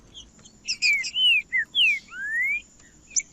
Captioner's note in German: trinca ferro cantando